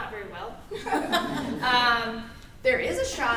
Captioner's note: everyone laughs